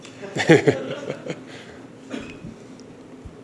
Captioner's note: laughter